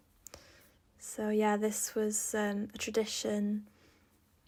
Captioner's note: in English